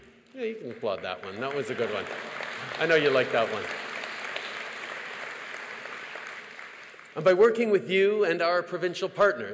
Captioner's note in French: Applaudissements